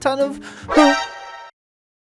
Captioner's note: scared Noise